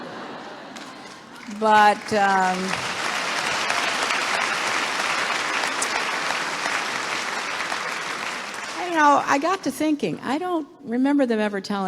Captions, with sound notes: >>(LAUGHTER) >>But ... >>(APPLAUSE) >>You know, I got to thinking. I don't remember them ever telling Mitt Romney to go